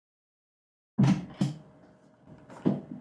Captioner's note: doors open